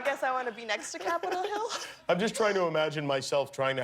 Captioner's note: laughter